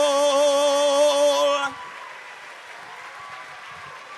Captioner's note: audience applauds